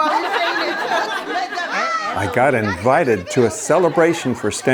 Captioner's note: all laughing